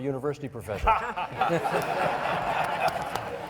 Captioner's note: laughing